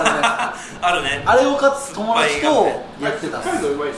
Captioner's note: laughs; laughs